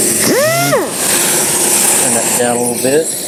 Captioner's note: sander hums